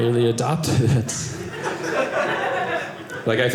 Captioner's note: audience laughing